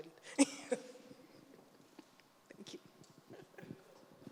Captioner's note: laughs